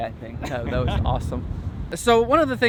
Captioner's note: laughs